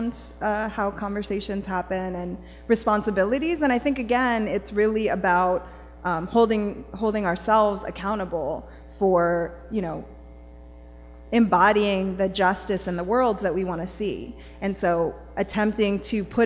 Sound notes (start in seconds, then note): none